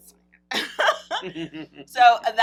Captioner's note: laughs